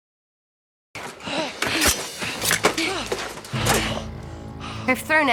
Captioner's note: panting